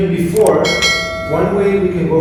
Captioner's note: bell Rings